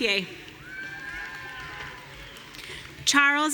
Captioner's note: audience cheering